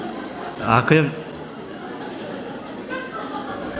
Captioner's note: audience Laughter